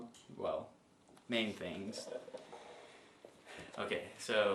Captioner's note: sighs